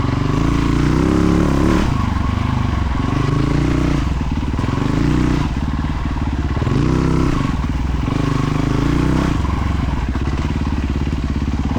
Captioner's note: engine revving